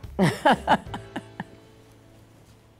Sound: laughing

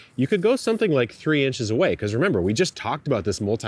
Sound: none

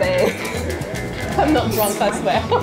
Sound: laughs

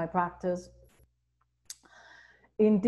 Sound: clicks tongue

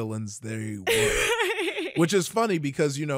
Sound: laughing

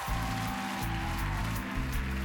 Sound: cheers and applause

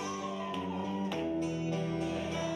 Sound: audience cheering

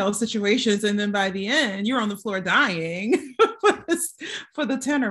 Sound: chuckling

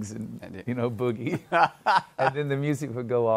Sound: laughs

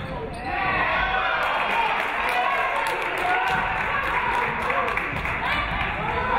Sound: audience cheering; audience clapping

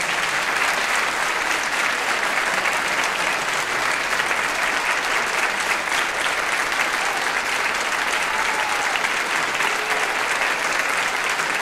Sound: applause

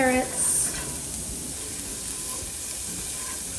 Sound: oil sizzling

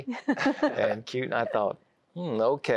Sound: giggling

